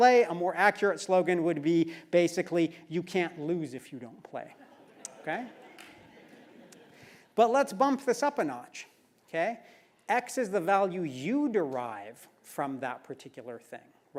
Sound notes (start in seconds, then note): 4.6 laugh